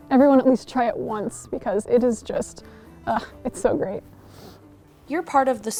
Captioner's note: sighs